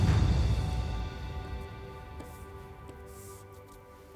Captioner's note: sponge swishing